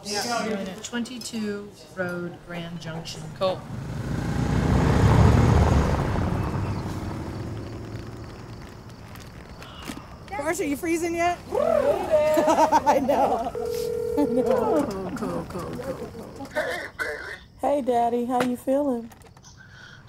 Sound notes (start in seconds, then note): 11.5 laughing; 13.1 phone rings